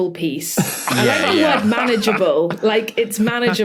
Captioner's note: others laughing